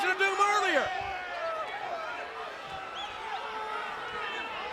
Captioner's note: crowd yelling